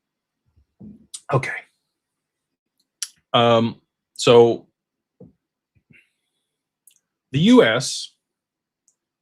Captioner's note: clears throat